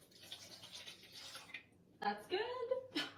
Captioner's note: water pouring